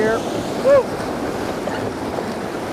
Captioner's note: rushing water